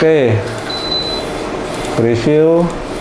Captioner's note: printer machine sound; beeping sound